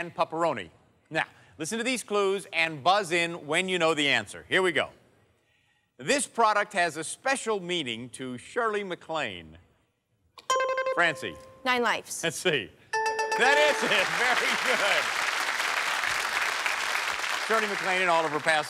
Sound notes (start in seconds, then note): 10.4 bell chimes; 12.9 bell dinging; 13.3 applause